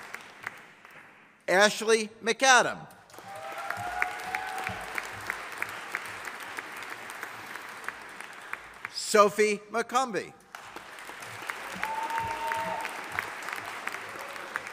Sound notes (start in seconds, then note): 3.1 audience applauding; 10.5 audience applauding